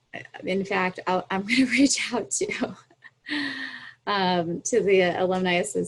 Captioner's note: chuckles